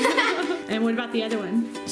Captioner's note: laughter